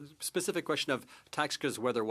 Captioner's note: speaking French